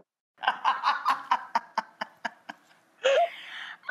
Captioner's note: laughs